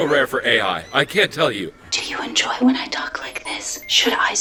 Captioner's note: whispering